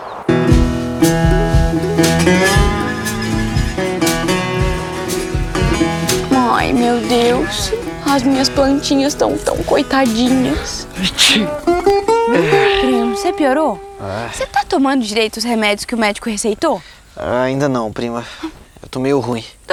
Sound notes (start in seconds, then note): 12.3 Jotapê sneezes